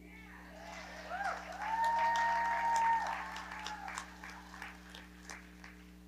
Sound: audience cheering and clapping

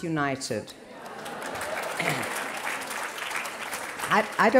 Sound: applause

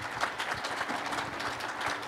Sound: applause

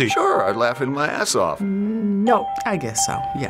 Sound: hesitantly

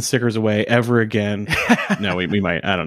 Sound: laughing

